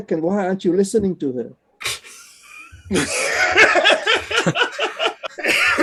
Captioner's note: laughter